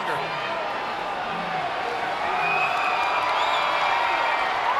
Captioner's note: crowd cheering